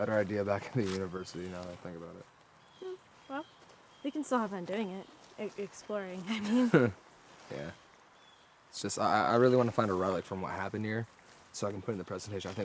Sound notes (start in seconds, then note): 6.3 both chuckle